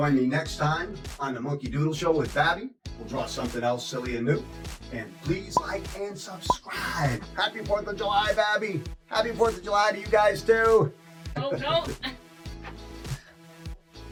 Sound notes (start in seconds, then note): 12.6 laughter